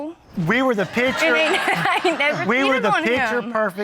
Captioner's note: audience laughing